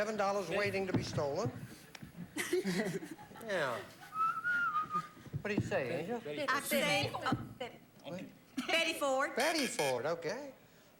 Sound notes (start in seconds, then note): 4.1 whistles